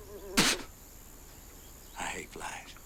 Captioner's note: fly buzzes; Latrell spits